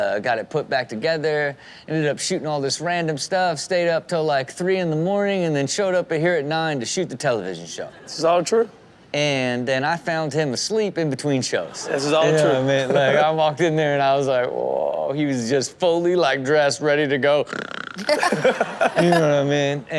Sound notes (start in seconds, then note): 17.7 snores; 18.0 Chanel and Sterling laughing